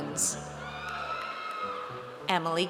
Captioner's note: audience cheers